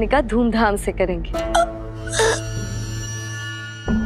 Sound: gasps

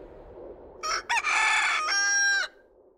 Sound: rooster crows

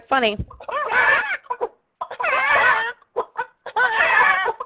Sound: hens clucking angrily

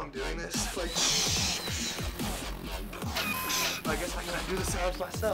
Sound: buzzing

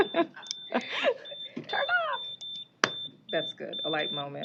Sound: beeping

